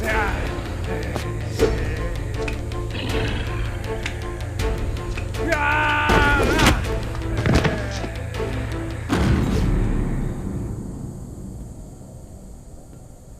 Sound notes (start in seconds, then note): 0.0 man groaning; 1.7 growling; 7.3 thudding; 9.1 dramatic music